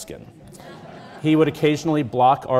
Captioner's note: audience laughing